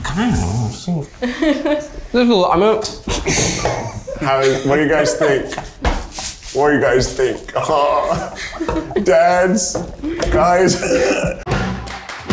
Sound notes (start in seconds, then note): 3.1 chuckles; 11.8 upbeat music